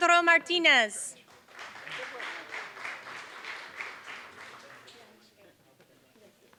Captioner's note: applause